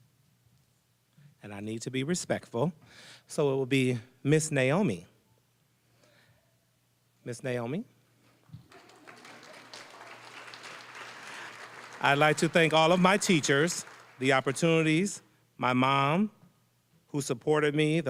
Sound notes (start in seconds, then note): 8.6 applause